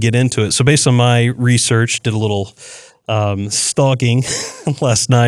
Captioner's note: laugh